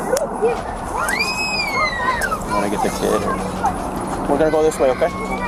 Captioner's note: child screaming